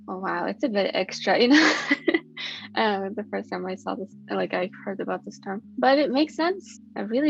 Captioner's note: laughs